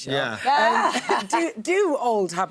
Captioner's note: laughs